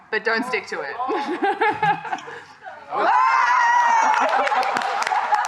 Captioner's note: laughter